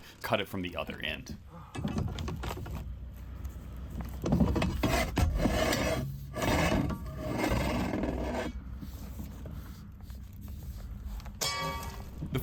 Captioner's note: pipes shaking and bing pulled out